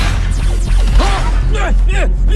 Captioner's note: exclaims, grunts